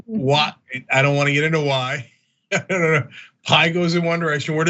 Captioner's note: laugh